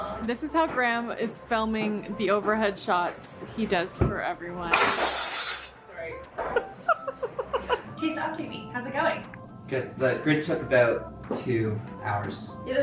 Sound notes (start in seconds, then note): 4.8 metal clanking; 6.4 laughing